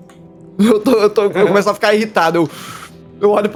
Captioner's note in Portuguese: fungada de raiva